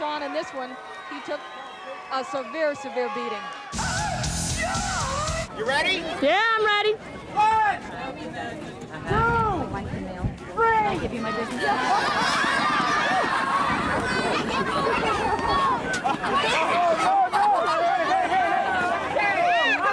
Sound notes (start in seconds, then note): 11.9 kids shouting and chattering